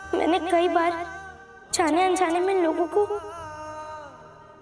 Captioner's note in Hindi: none